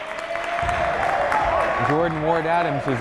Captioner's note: clapping